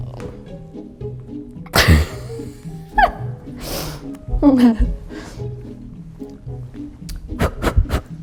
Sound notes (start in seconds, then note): 1.7 laughing